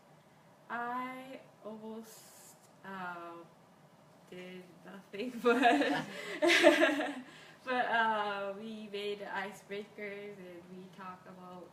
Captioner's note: laughs